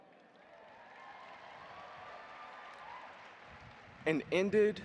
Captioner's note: audience applauding